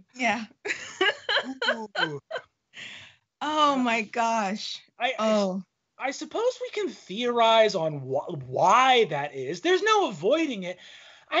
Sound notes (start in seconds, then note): 0.6 laughing